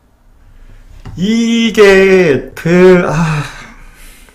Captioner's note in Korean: 한탄